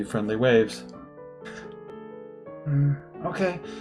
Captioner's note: laughs softly